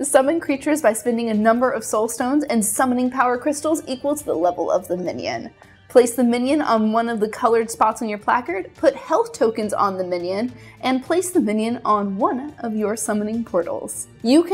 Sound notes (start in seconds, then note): none